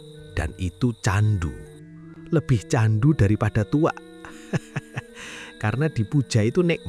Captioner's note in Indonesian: tertawa